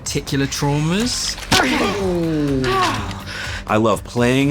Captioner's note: sighs